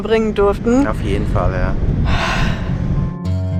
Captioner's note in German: Seufzen